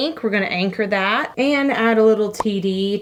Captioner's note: none